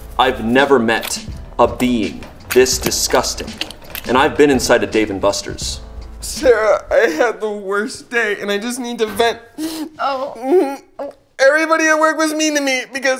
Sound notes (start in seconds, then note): 9.5 sobs